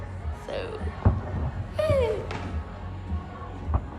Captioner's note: squeals